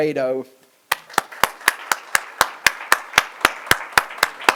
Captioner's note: applause